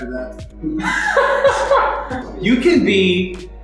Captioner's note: laughter